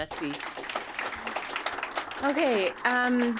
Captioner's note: audience applauding